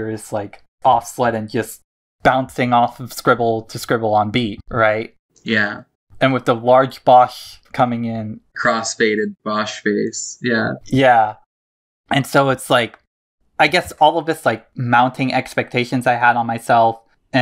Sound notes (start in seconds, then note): none